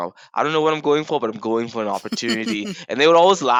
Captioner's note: chuckles